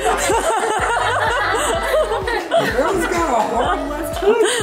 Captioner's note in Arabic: الكل يضحك